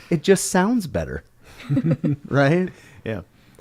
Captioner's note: laughter